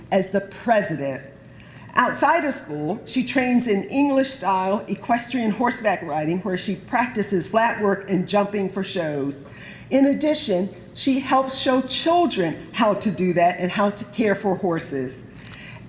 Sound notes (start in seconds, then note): none